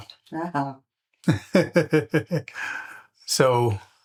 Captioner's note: laughter